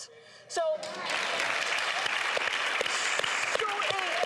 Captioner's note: applause